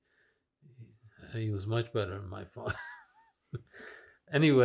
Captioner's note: laughing